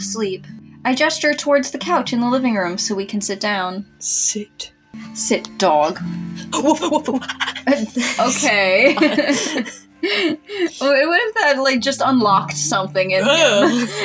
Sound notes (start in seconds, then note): 6.3 laugh; 7.2 panting; 10.1 chuckle